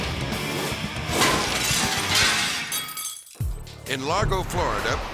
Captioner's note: logo swooshing; intense rock music; glass cracks and crashes